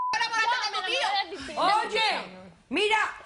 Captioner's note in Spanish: Bip